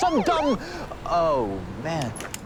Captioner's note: sirens